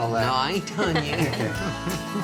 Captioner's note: laughing